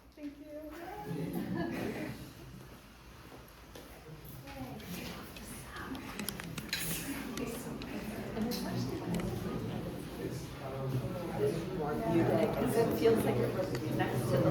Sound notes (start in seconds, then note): 0.9 audience laughing lightly; 9.4 audience chatting; 9.4 speaking faintly